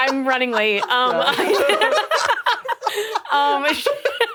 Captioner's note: all laughing